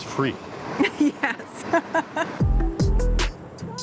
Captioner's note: laughs